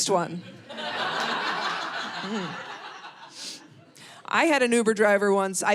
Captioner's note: audience laughing